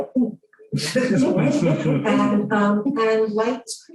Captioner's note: laughter